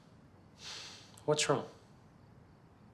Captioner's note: sighs